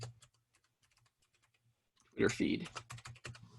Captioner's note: keyboard clicking